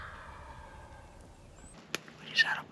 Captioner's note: turkey gobbles; whispers